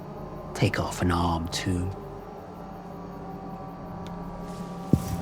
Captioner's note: crickets chirping